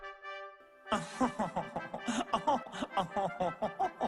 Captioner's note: frenchman laugh